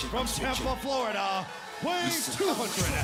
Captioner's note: crowd cheering